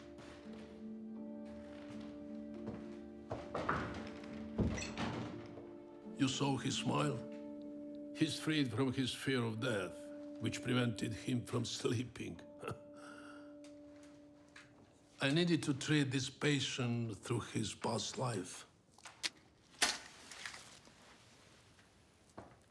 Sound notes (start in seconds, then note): 3.4 knocks; 3.5 door closes; 12.5 chuckles; 19.7 match strikes